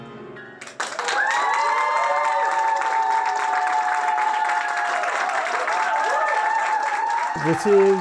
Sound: piano; applause and cheers

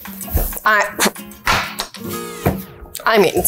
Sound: scoffs

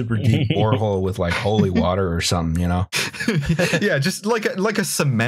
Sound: laughter

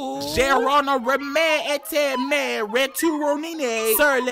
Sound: man speaking gibberish

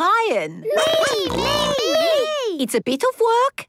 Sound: snorting

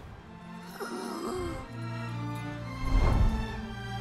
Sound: child gasps

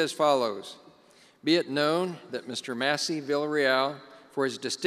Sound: none

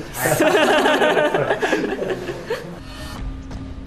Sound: laughs

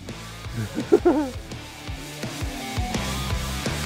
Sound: laughs

